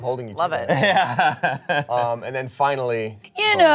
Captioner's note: laughs